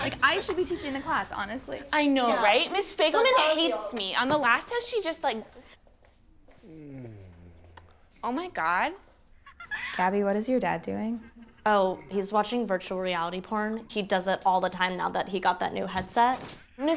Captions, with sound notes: Like, I should be teaching the class, honestly. - I know, right? Miss Fagelman hates me. On the last test, she just like-- (man moans) Ohmigod. (giggling on visor) - Gabby, what is your dad doing? - Oh, he's watching virtual reality porn. He does it all the time now that he got that new headset.